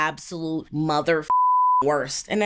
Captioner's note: beep